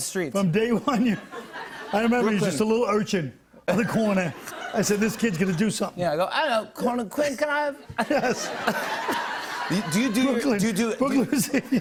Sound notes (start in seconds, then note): 0.8 laughter; 6.3 British accent; 7.8 laughter